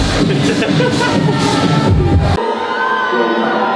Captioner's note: laughing; cheering